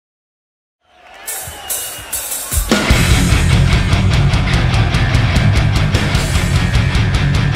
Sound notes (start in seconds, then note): 0.8 audience cheering; 0.8 cymbal playing; 1.7 metal music